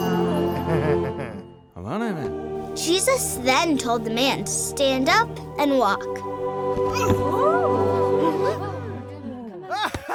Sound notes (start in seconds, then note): 0.0 angelic music; 3.4 voiceover; 6.8 angelic music